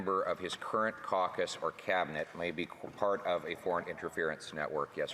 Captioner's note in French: voix de l'interprète